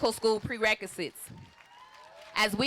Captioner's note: applause